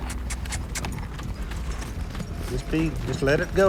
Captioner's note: clicks tongue